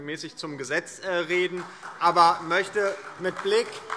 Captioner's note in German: Beifall DIE LINKE und SPD